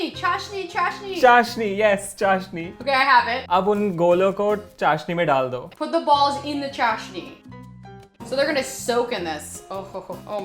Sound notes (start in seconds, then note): 0.1 repeating Hindi; 1.4 speaking in Hindi; 4.0 speaking in Hindi; 7.2 Hindi